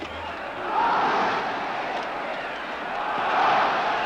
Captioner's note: crowd cheers and applauds